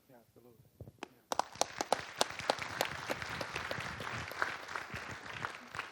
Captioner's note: audience applauding